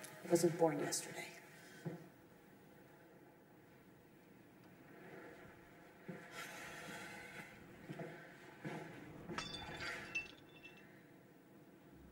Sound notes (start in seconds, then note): 9.3 glass Breaks